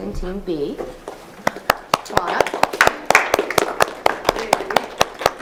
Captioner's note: audience applauding